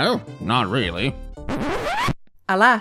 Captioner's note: record scratch noise